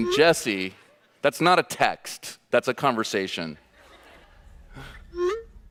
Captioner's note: phone pinging